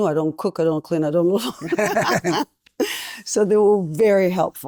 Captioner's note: laughing